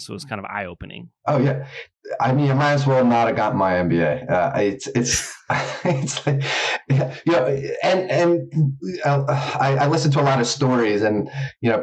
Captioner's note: laughs